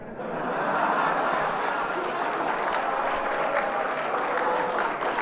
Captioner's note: audience laughs and applauds